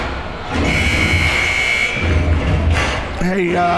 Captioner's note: buzzer rings